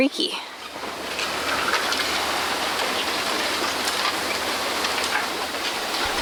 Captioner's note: bamboo knocking sounds